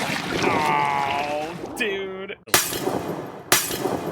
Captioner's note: glass shattering